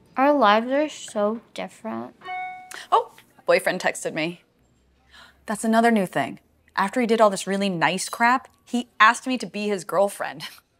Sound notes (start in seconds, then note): 2.2 phone beep